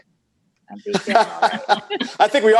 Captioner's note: laughs